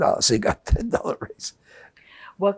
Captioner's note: laughing